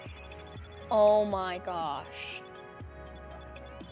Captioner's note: REM-Pod sounds with flashing lights